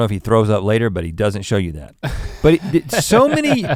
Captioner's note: Link chuckles